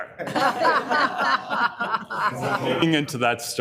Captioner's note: committee members laughing